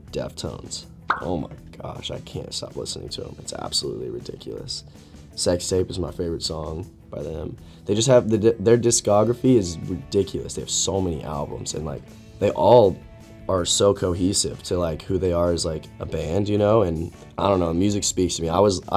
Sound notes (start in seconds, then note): 1.1 bubble pops